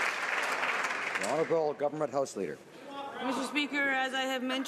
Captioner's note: some Applause